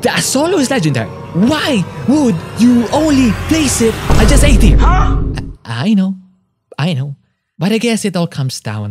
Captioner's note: vine boom effect